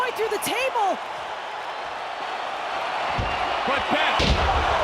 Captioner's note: crowd cheers